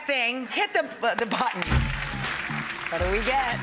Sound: clapping

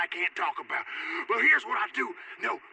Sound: gasp

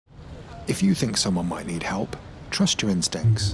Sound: voiceover

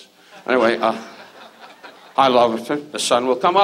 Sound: audience laughs

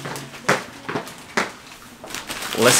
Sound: plastic bag crinkling

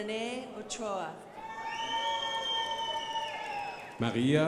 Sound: crowd applauding

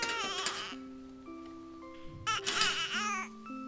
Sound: baby crying

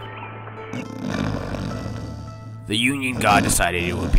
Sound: snoring

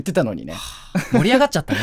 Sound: sigh

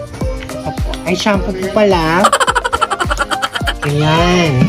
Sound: laughing SFX

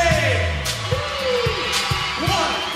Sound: crowd cheering

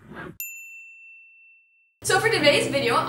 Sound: ding

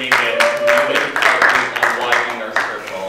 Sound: applause

